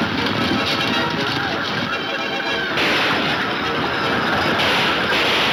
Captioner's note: gunshots banging